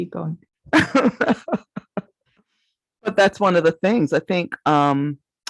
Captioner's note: laughs